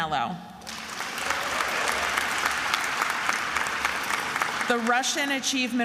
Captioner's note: attendees applauding